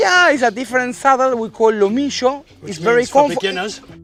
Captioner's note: spanish